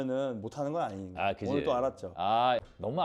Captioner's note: confident